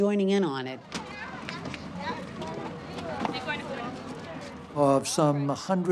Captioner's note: talking in background